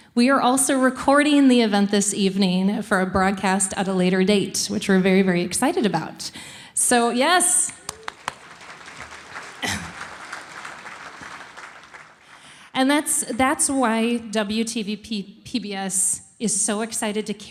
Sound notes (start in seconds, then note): 7.7 applauding; 7.8 audience applauding